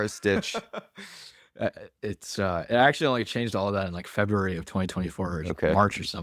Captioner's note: laughs